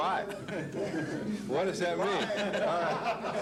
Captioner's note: laughter